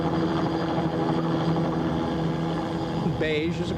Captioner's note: helicopter engine